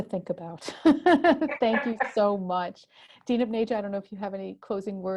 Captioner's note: laugh